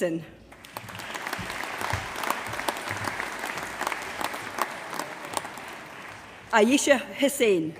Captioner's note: applause